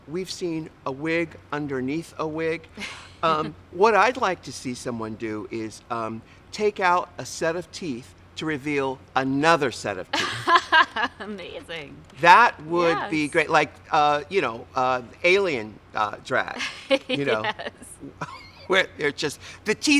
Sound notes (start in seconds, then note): 10.2 laughs; 16.8 laughs